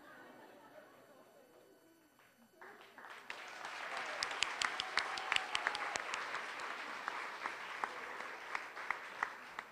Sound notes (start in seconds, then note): 0.1 audience laughing; 2.6 applause